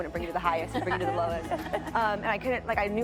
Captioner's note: laughing